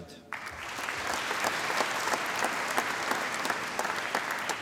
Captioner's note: applause